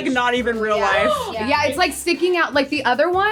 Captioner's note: shocked gasp